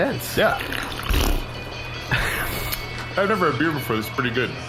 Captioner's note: blows a raspberry